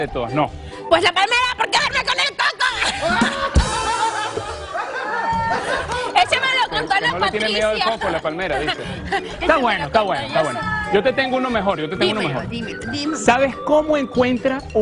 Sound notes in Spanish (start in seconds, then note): 8.0 risas